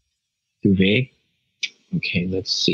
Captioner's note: clicks tongue